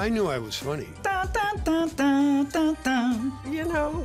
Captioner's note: guest hums tune